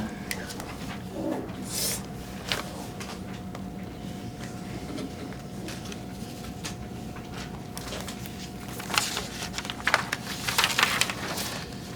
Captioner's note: pages turning